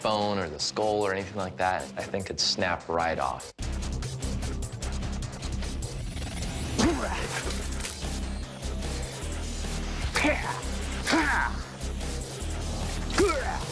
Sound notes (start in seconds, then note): 5.9 shouting